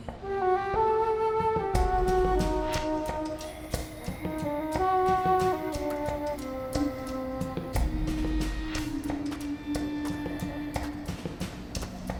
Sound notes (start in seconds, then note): 3.3 woman moans hoarsely; 7.7 mysterious ritual music